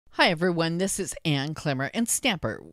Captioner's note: voiceover